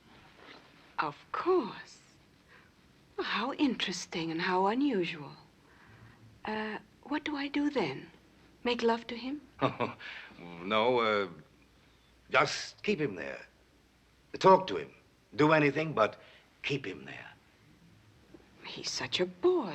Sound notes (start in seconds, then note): 9.6 laughs